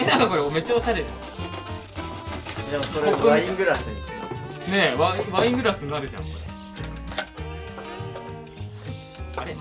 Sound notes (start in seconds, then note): 6.9 laughs